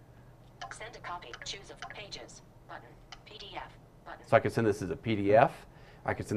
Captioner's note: device speaking